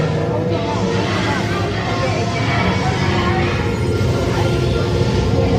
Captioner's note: electricity noises and ominous music